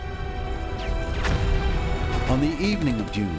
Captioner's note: gunfire